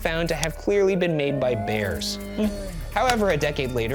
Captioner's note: bear roaring